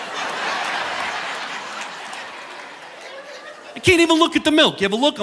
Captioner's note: audience laughing